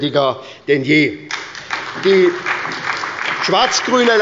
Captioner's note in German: Beifall bei der SPD und der LINKEN